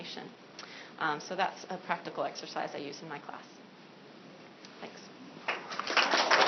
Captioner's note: applause